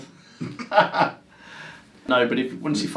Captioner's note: laughs